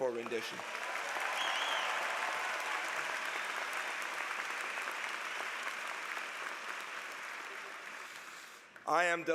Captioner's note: applause